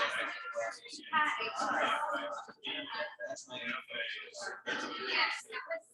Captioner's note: people chattering indistinctly